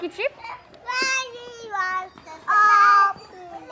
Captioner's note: kids chattering